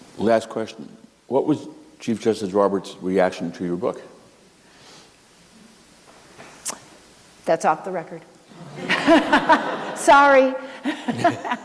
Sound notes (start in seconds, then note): 8.6 laughter